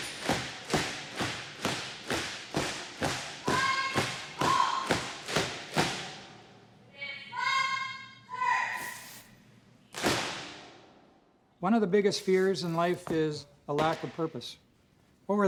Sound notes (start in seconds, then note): 0.0 feet stamp loudly in unison; 5.6 feet stop stamping; 10.0 loud foot stomp